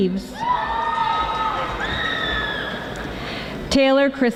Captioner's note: audience applauding